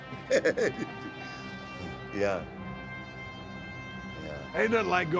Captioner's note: laugh